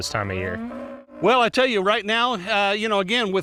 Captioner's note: cow mooing